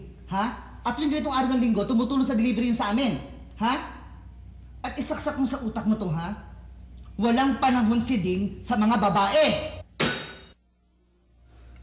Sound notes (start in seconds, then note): 9.6 phone slams